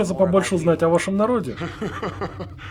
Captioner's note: laughs